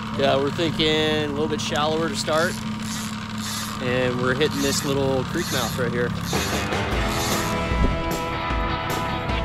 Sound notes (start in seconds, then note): 2.5 reel whirring; 6.3 upbeat music